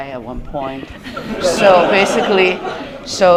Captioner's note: laughter